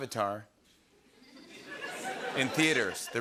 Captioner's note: laughter